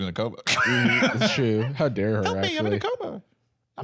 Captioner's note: laughs